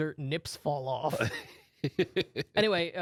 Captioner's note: laughs